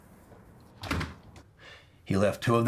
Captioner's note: door slams